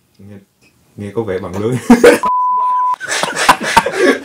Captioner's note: laughs